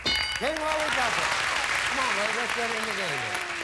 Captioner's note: audience applauding